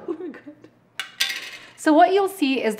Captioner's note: laughing